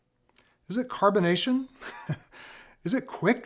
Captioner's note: laughs